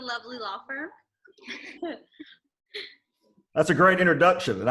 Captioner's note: laughs